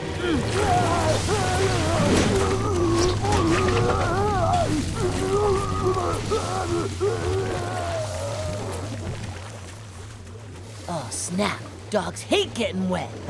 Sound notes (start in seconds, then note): 0.0 groaning